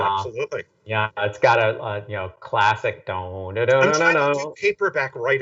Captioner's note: humming